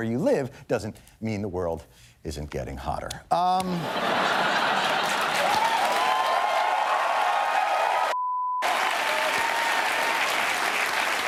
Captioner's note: cheers and applause